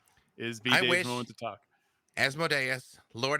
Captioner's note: murmurs